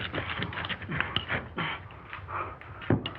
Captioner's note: brick thumping